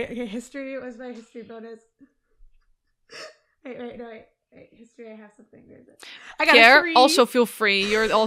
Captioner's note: laughs